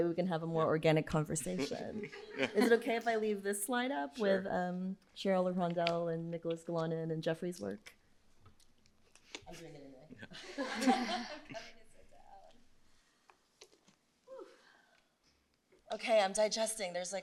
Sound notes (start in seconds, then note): 10.2 laughter